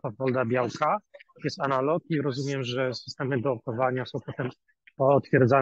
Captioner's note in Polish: szum